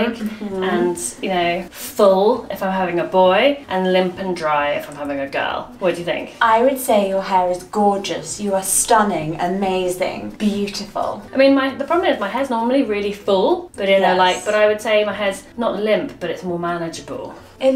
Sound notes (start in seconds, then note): none